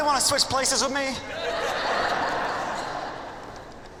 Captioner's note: laughter